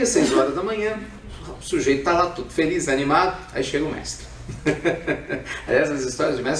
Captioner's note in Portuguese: Risos